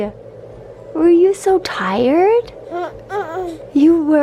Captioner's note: cooing